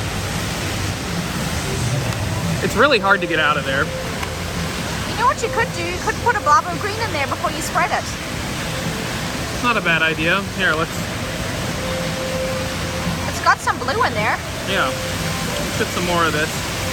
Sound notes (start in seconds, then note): none